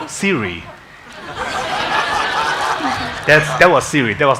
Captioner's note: congregation laughing